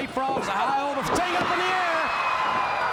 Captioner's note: crowd cheering